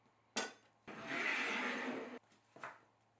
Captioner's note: bowl sliding